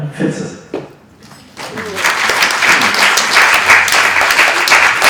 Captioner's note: audience clapping